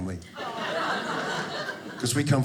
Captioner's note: audience laughing